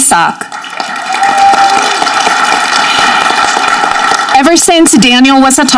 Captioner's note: audience cheering